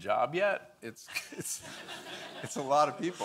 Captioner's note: audience laughing